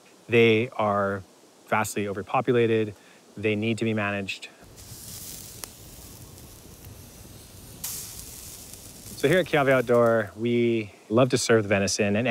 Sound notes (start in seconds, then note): 4.6 meat sizzling